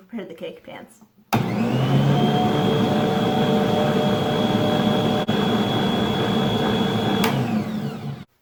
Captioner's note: mixer noises